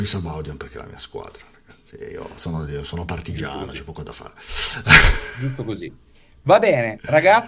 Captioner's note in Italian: risate